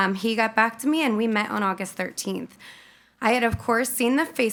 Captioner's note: none